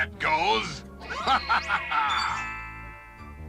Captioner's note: laughs